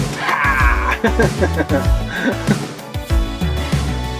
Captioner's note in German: Lachen